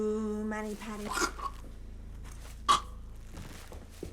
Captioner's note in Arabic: صرصور يختنق